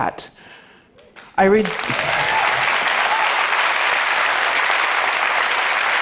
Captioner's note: applause